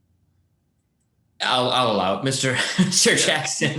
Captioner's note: laughs